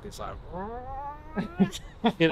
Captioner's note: laugh